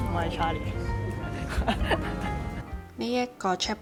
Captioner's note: laughing